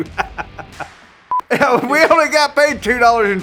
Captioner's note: chuckling